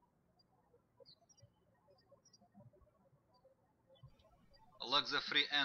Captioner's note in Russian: птички щебечут